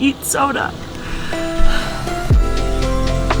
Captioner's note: sighs